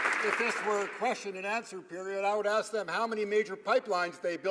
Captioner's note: some Applause